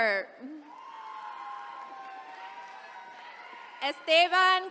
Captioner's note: attendees cheering